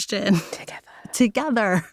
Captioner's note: whispers